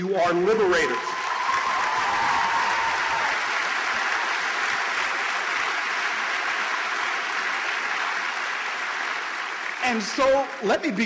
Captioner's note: applause